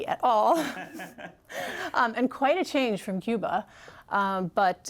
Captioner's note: laughter